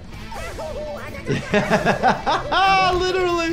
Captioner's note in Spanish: Mario gritando; el doctor se ríe